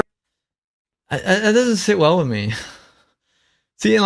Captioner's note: laughs